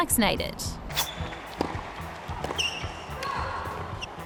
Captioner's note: tennis ball bounces